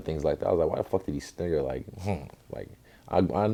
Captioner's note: sniggers